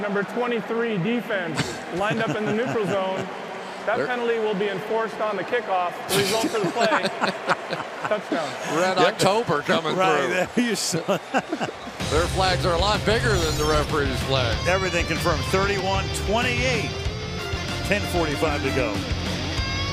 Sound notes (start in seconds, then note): 8.5 laughter; 12.0 laughs